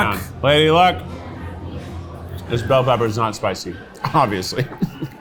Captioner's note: laughs